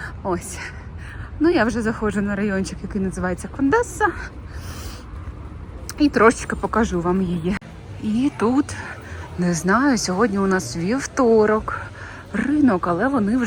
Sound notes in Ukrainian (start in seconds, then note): 4.4 сопіння